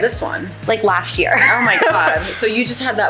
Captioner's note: laughs